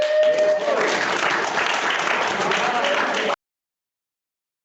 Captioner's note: cheering and applause